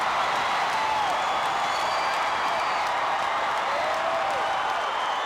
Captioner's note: audience cheering continues